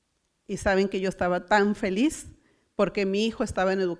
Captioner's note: foreign language